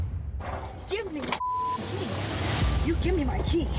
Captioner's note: beep